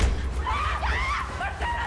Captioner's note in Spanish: Golpes; Gritos